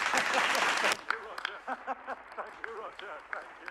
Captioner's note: applauding; laughing